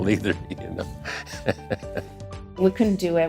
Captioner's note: chuckles